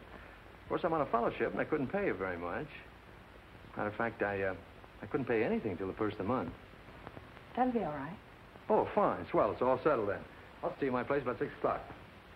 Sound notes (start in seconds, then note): none